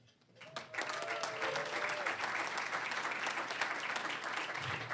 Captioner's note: cheering, applause; applause